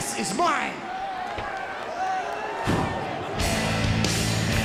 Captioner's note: crowd chattering; upbeat rock music